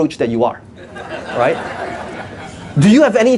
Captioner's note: audience laughs